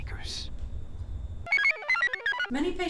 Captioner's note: computer chirps